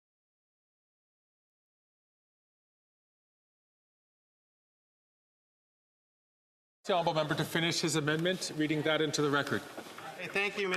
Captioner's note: some Applause